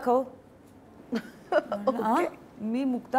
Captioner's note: Chuckles